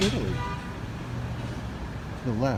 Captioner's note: horn honks